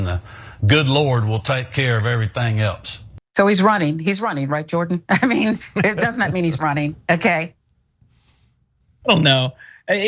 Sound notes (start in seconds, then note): 5.2 laugh